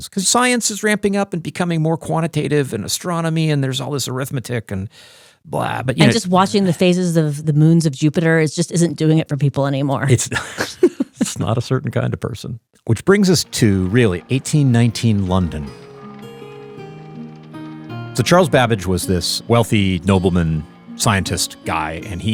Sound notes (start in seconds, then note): 10.3 both laughing; 16.0 intriguing music